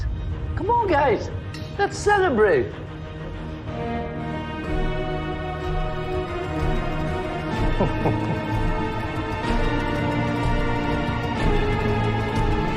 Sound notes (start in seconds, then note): 3.0 dark music playing; 7.5 chuckles; 11.0 dark music continues